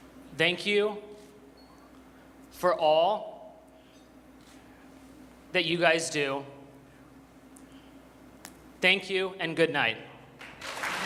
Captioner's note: applause